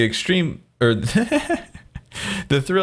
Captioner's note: laughs